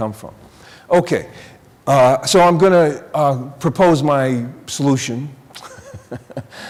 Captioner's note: laughing